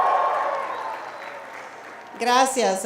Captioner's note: applauding